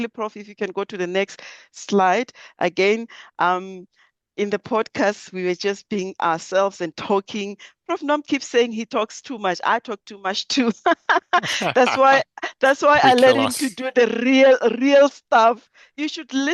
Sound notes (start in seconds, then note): 10.9 laughs